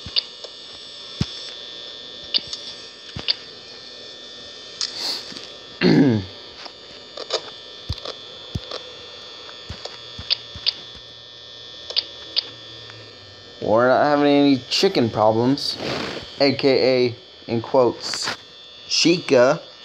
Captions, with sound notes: *Sniffle* *Cough* We're not having any chicken problems.. AKA, in quotes.. "Chica"!!